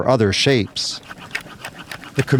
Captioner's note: sawing